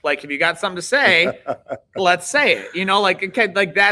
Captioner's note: laughing